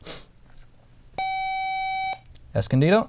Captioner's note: buzzer